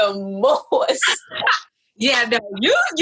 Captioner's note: laughs